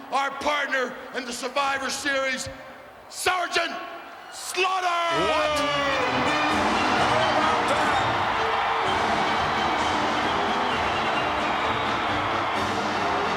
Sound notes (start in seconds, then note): 5.2 patriotic music; 9.1 crowd cheering